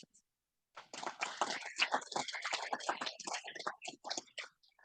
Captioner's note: audience applauding